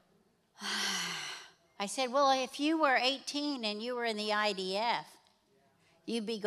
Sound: Cindy sighs

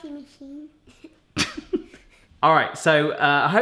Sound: laughs

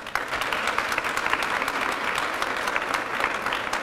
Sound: applause

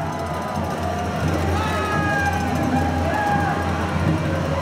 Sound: cheering; band playing

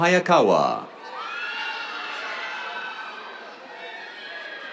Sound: cheers, applause

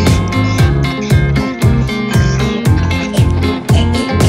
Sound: munching and Eating; Miley Choking

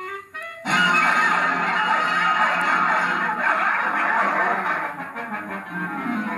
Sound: barking

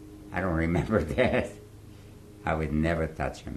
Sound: laughs

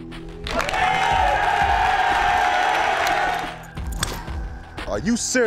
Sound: cheering

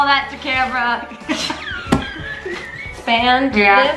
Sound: laughs loudly

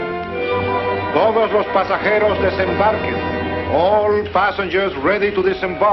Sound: man announcing in spanish

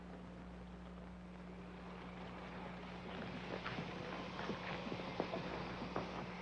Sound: electric wheelchair motor whirring

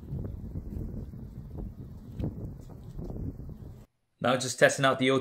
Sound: wind blowing

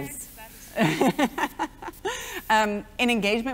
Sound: laughs

